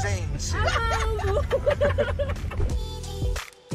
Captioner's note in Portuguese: risos